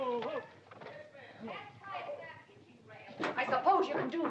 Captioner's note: commotion & horses neighing; Katherine yelling in the hallway